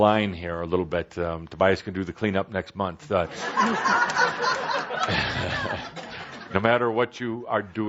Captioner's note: laughter